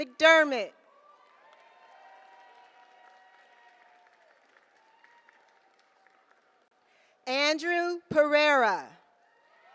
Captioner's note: applause; applause